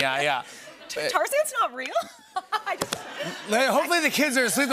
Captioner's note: laughter